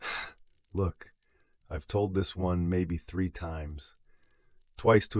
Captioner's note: sighs